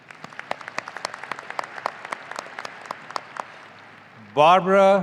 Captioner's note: audience applauding